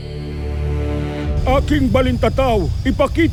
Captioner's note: sparkling whoosh